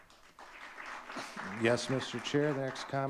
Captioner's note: audience clapping